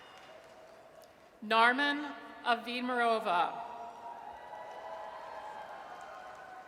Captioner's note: audience cheers